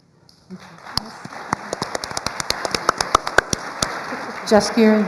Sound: applause

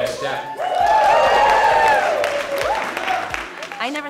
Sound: cheers

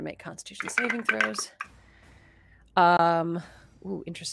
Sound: dice clatter

